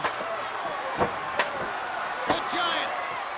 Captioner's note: chair clangs